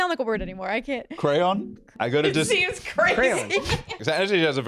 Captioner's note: laughing